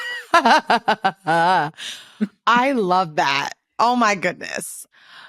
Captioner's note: laughs